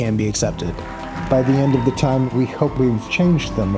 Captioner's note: audience cheering